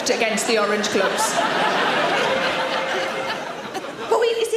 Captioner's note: audience laughing